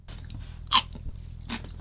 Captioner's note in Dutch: crunch